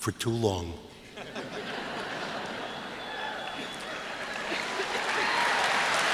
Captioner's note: laughter, applause